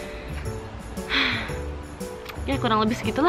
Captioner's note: deep breath